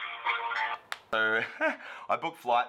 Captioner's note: upbeat music; clicks